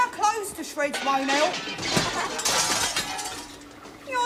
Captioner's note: glass smashing